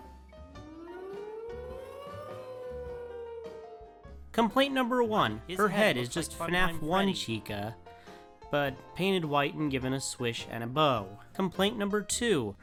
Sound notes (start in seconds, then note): 0.8 siren